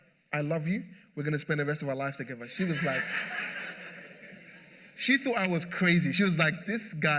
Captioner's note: laughter